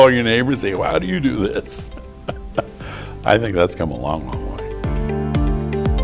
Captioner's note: laughter